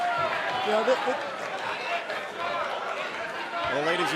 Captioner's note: fans chanting